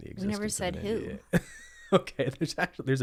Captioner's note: laughs